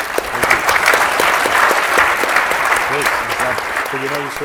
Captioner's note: applause